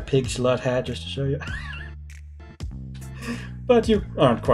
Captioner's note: laughs softly